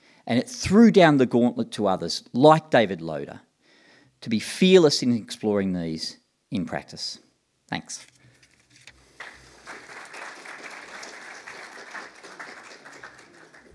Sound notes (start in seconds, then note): 9.2 applause